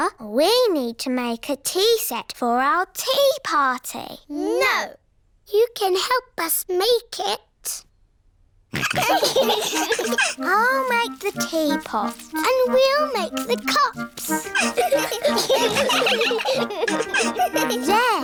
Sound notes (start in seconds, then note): 8.8 all laughing; 14.1 all giggling